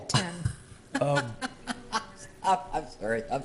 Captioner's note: laughing